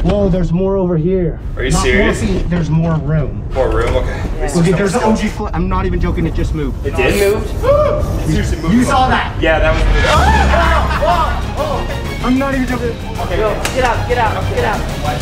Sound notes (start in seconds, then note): 7.6 screaming; 11.1 screaming; 12.0 intense music